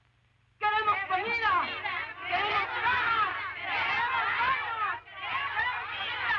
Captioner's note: women join chant